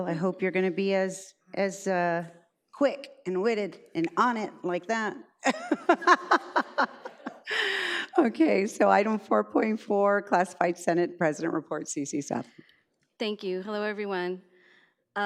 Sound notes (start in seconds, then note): 5.5 laughs